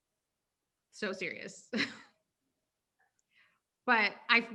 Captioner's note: chuckling